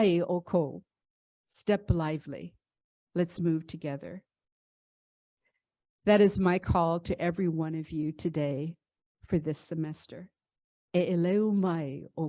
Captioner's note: speaks in 'Ōlelo Hawaiʻi